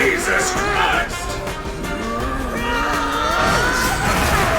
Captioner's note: battle sounds